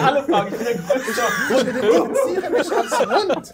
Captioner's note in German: bellt